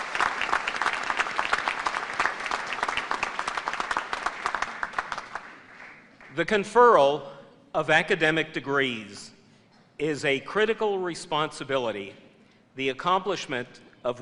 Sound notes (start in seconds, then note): 0.0 applause